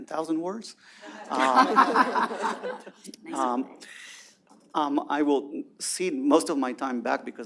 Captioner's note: laughter